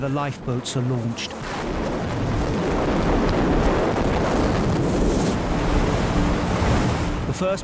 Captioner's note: waves crashing; boat droning